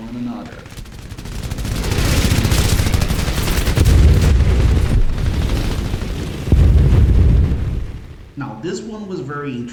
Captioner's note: aircraft Engines ,Gunfire, Flying Sounds